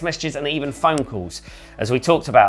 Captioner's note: soft popping